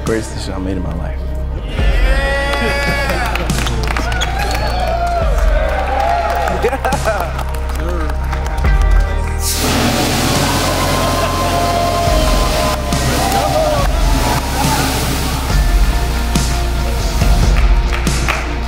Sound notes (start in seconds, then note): 1.9 cheering; 6.3 cheering; 6.3 intense music